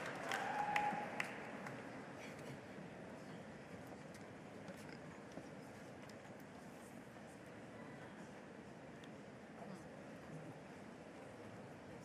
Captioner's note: applause